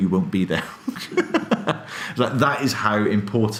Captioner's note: laughing